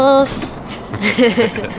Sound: laughs

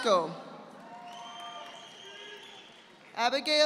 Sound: audience applauding

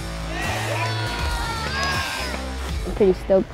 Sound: cheering

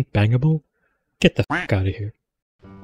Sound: quack

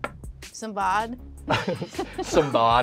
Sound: all laughing

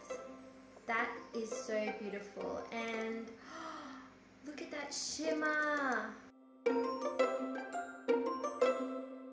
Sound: gasps

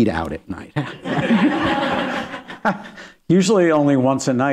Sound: laughter

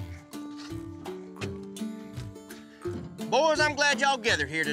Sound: none

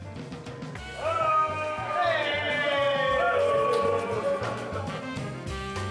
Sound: cheers and greetings

